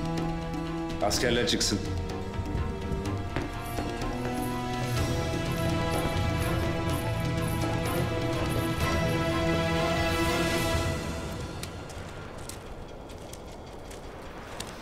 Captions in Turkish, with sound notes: Askerler çıksın. (Müzik - Gerilim) (Ayak sesleri) (Ayak sesleri)